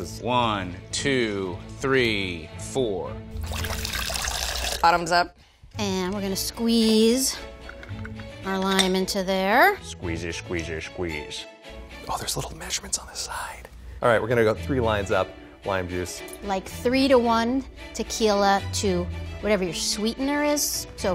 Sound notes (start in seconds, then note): 3.3 liquid sloshing